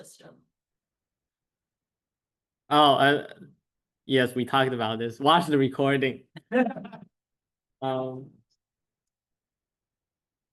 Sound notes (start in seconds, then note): 6.4 laughter